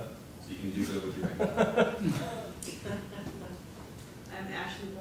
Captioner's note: laugh